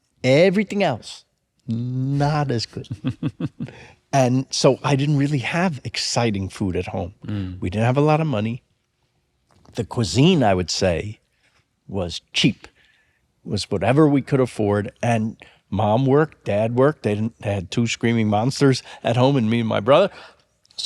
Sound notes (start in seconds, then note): 2.6 laughs softly